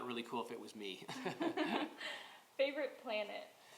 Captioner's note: laughter